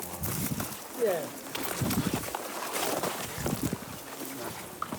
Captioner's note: sounds of scrambling through squelchy mud and brambles